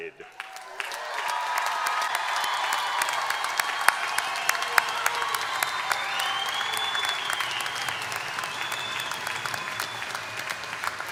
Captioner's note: applause